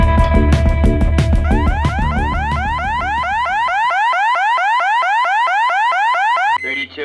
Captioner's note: sirens